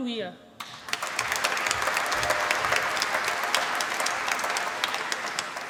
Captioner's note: applause